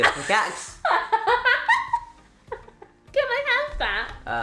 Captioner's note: laughs